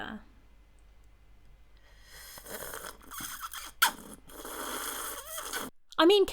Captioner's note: disgusting slurping sounds